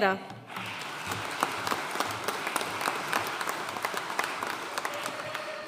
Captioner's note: audience cheering and applauding